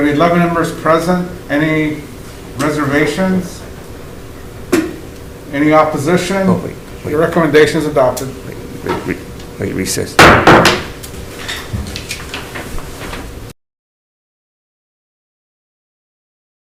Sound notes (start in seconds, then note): 10.2 gavel bangs